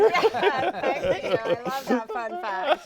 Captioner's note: all laughing